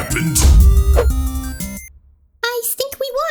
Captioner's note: punch